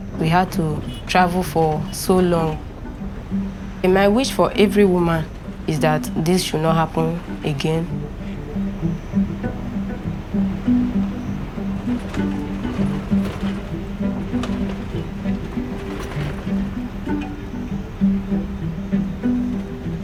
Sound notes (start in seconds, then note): 8.9 relaxed guitar music; 13.5 crickets chirping